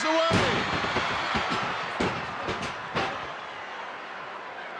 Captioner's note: body thudding